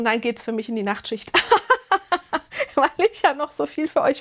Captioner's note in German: gelächter